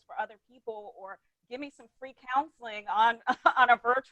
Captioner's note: chuckles